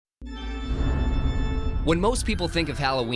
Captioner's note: thunder